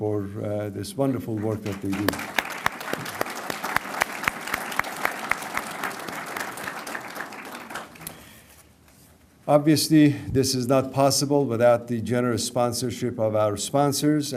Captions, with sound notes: FOR THIS WONDERFUL WORK THAT THEY DO. [ APPLAUSE ] OBVIOUSLY THIS IS NOT POSSIBLE WITHOUT THE GENEROUS SPONSORSHIP OF OUR SPONSORS.